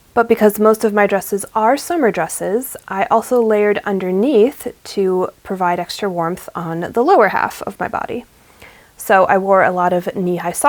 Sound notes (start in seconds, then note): none